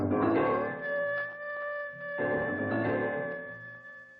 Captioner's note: wolf howling